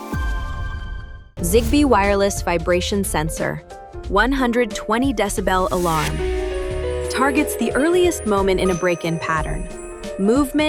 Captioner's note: 120dB alarm